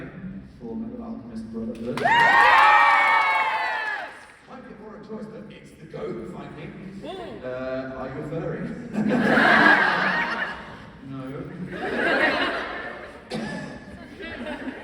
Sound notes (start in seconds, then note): 9.0 laughs nervously; 13.2 coughs